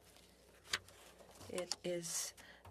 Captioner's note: speaking French